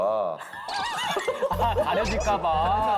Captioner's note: laughing